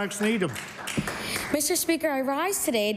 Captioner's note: applause